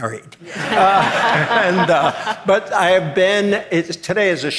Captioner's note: audience laughing